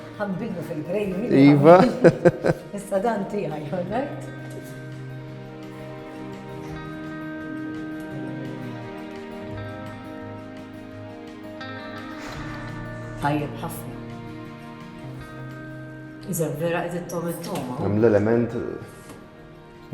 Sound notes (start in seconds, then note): 1.3 chuckles; 5.7 ambient music